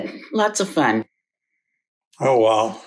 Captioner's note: deep sigh